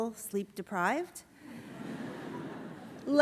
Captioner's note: laughter